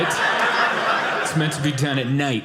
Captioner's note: audience laughing